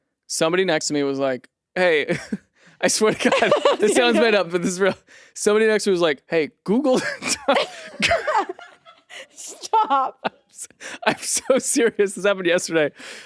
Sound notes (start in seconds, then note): 6.9 laughs